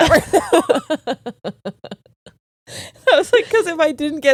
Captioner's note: laughing